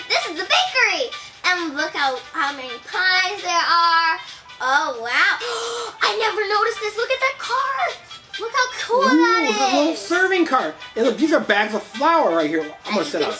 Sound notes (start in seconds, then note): 5.4 gasps